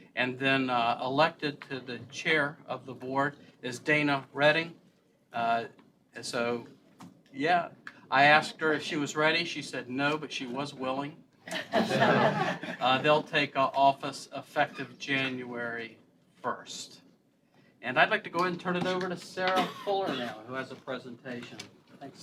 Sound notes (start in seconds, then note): 11.4 laughter